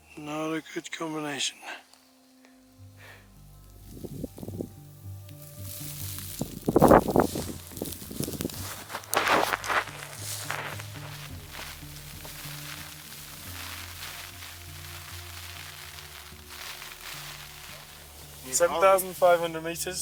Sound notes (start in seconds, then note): 5.7 wind and snowfall